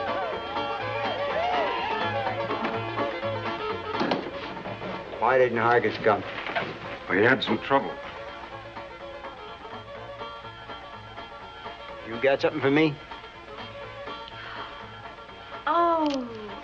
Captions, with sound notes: Why didn't Hargus come? He had some trouble. You got something for me? [gasps] Oh...